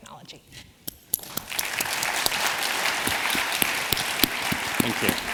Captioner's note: applause